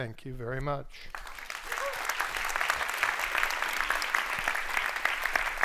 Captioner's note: audience applauds